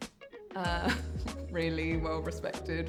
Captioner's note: chuckles